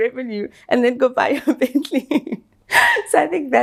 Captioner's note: chuckles